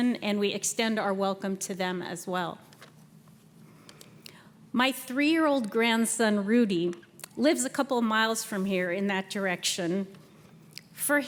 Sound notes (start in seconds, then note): none